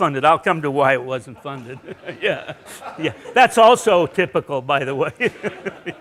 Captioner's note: laughing